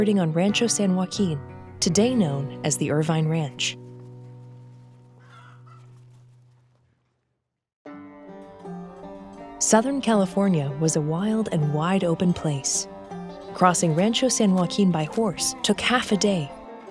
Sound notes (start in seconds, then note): 3.6 chicken clucking; 7.9 light twangy music